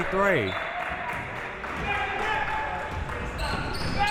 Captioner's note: clapping